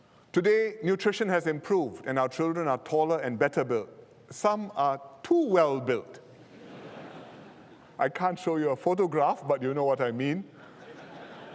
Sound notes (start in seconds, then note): 6.3 laughter